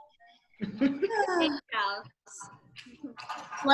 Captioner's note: laughs